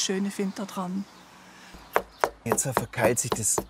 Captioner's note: hammering